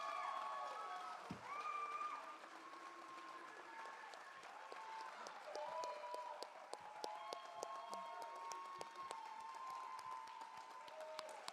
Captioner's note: applause